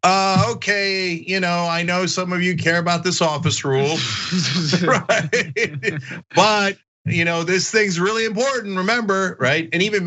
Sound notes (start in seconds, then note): 3.2 laugh